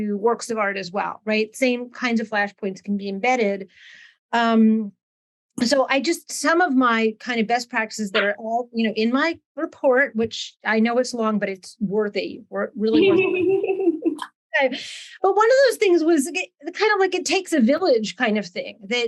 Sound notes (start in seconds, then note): 12.9 laughing